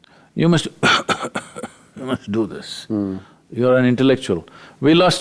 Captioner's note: coughs